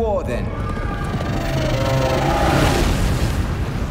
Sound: roaring

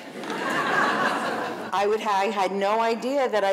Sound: audience laughing

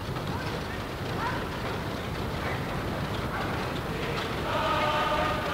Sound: airplane propellers running; soldiers singing

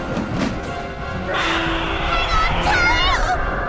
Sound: witch cackling; yelling

